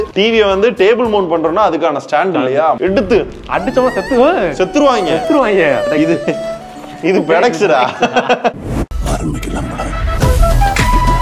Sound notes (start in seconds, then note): 8.1 laughs